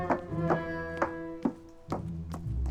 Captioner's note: footsteps